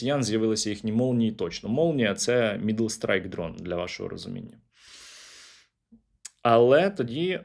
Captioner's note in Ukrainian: сопіння